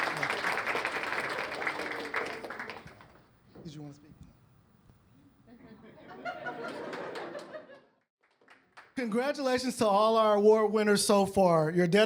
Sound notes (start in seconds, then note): 5.5 laughter